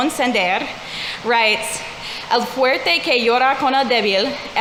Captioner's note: speaking in foreign language